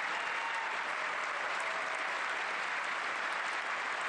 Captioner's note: cheers and applause